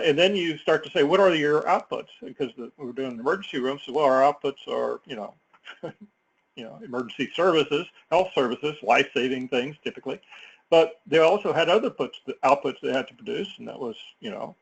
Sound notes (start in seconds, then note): 5.6 laugh